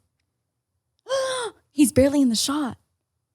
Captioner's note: gasps